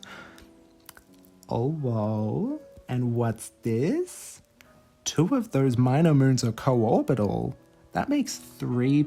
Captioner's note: silly curious voice